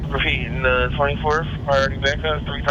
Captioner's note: man On Radio